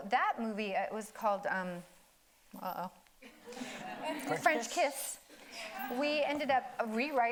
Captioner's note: audience laughing